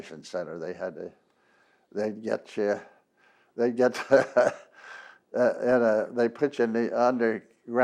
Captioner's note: laughs